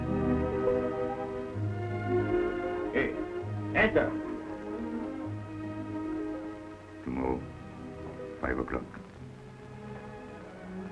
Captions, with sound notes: Hey, (speaks in foreign language). Tomorrow. Five o'clock.